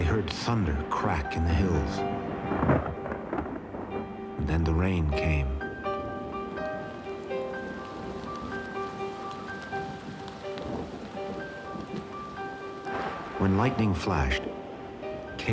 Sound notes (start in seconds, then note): 2.7 thunder rumbling; 6.5 calm music; 8.1 rain pattering